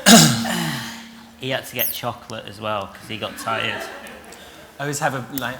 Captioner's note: laughter